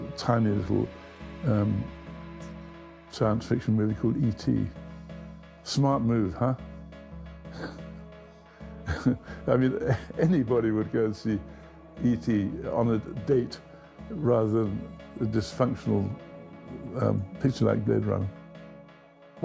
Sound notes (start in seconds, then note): 7.3 tense music; 8.8 chuckling